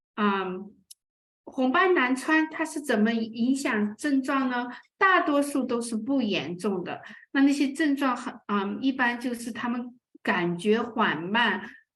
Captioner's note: speaking chinese